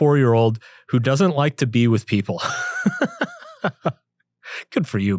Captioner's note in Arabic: يضحك